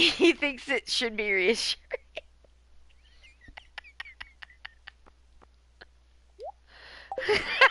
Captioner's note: laughing; laughing